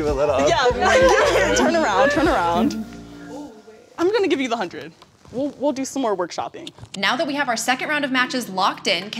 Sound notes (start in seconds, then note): 1.7 laughter